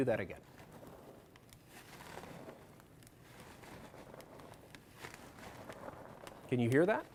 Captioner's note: crunchy snow walking sound